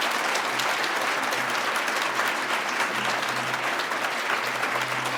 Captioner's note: applause